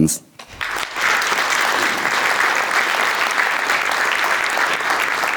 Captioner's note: audience applauding